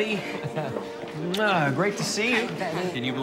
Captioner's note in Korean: 볼에 입맞추는 소리